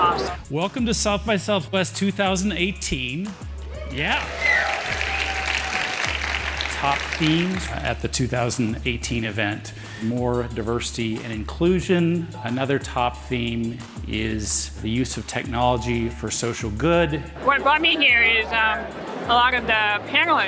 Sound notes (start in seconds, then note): 3.7 cheering, clapping